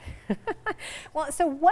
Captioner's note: laughing